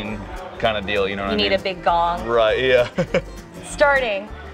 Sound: laughs

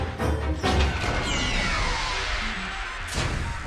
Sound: factory noise

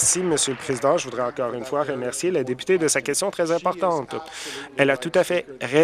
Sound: some Applause

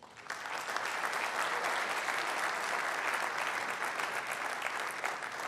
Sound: audience applause

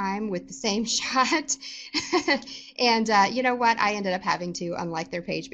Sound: laughter

